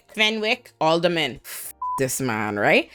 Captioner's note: beep